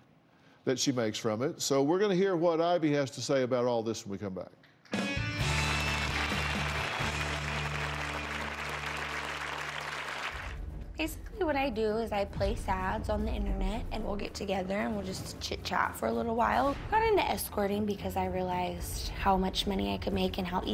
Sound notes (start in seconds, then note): 7.4 applause